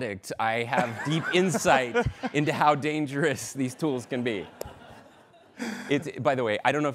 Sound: laughter

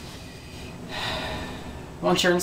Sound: sigh

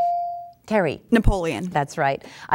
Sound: dinging

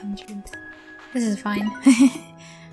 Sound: laughter

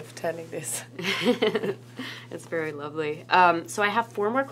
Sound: laughs

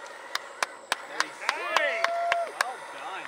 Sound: clapping

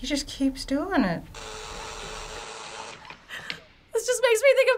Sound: senor buzzer buzzing

